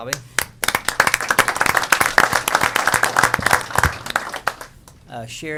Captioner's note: applause